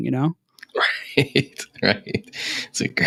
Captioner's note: laughing